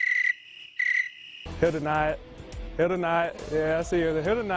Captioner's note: crickets chirping